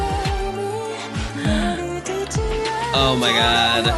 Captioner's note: gasp